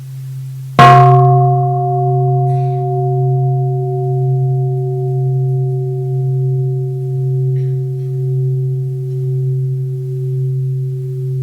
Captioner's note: third sound of the bell